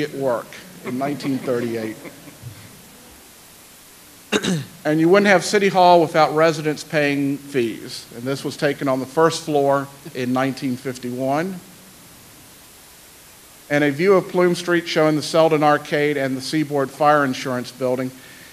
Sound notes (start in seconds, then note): 0.8 light laughter